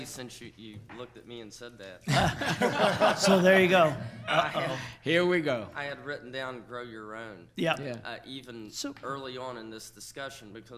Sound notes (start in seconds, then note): 2.1 laughs